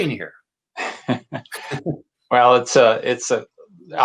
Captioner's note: laughs